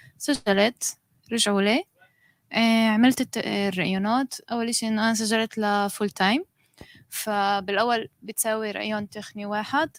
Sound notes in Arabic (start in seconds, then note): 5.8 لغة أجنبية